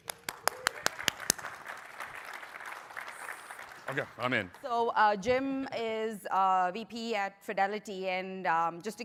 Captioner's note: applause